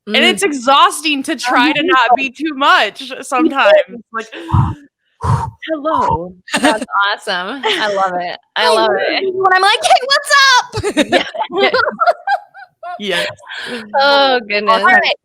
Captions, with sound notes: and it's exhausting to try to not be too much sometimes. - Breath in (breathing) Halo. - That's awesome, I love it, I love it. - And I'm like, hey what's up? (all laughing) - Yeah, yes. - Oh goodness. All right.